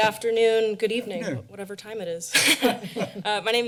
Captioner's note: laughter